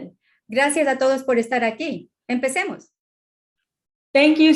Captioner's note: speaking spanish